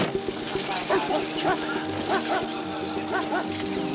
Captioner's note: dog barking